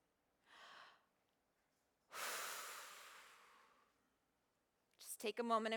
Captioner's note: breathes